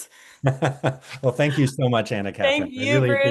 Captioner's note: laughs